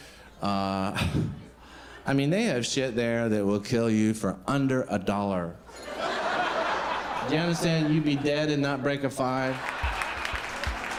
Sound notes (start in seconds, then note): 5.7 crowd laughing